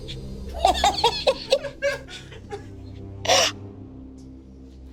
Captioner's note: laughs; crew laughing; dramatic music continues